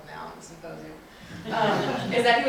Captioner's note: crowd laughing